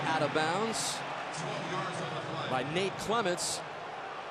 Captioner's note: pa announcement